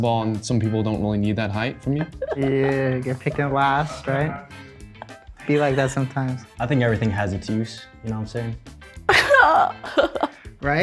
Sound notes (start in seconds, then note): 1.9 laughs; 9.1 laughs